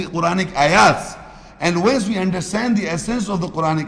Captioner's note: Arabic